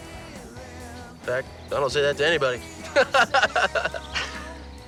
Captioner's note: chuckles; laughs